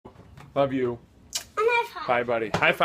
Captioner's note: kissing